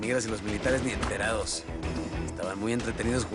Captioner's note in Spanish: Disparos